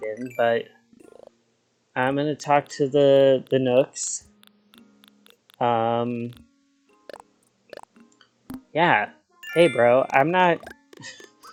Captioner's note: laughs